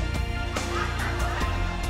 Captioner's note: people laughing